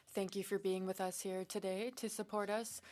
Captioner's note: speaking in French